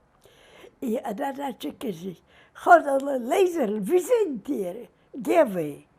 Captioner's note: yiddish